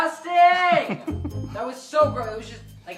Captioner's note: laughing